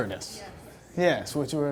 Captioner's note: voiceover